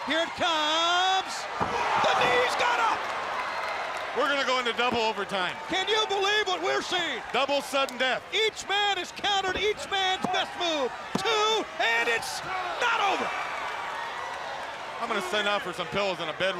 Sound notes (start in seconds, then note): 13.9 crowd cheering